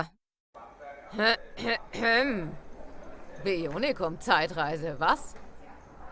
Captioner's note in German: räuspert sich amüsiert